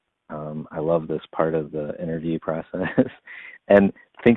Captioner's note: laughs